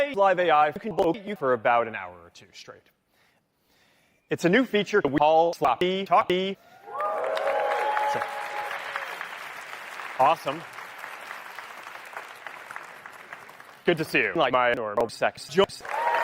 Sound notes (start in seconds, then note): 6.8 applause; 15.6 applause